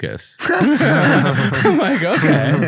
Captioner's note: group laughing